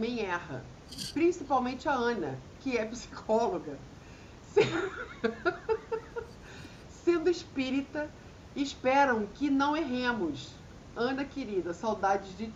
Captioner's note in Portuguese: risadas